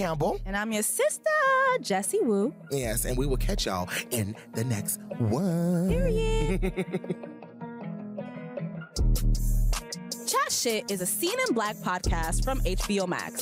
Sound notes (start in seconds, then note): 6.3 chuckles